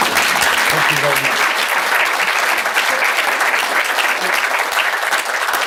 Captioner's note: audience applauding